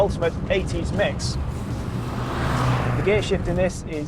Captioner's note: car roaring